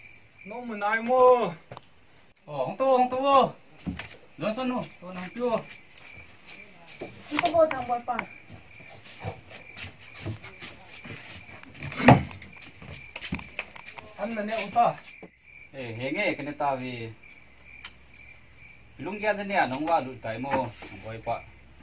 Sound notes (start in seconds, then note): 12.0 clearing the throat